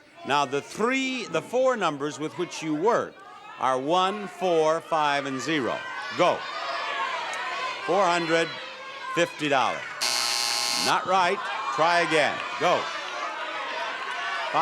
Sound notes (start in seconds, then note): 7.3 audience members shout prices; 10.0 buzzer sounds; 13.0 audience members shout prices